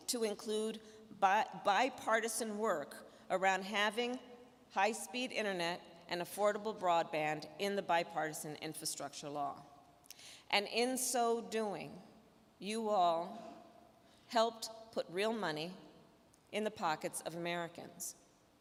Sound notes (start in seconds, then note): none